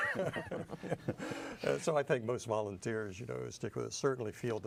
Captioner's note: laughter